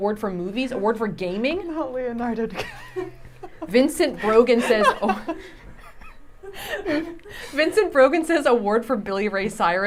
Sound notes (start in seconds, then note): 2.4 laughing